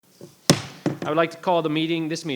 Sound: gavel pounding

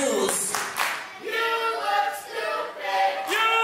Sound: crowd

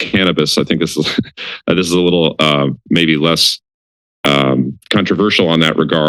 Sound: laughter

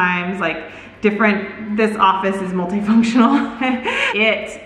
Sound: laughs

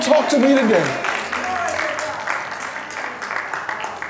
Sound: applause

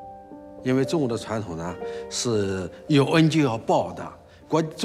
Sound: speaking Chinese

